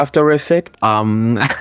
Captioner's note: rire